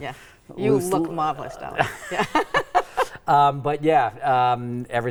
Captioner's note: laughing